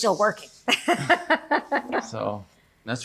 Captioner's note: laughs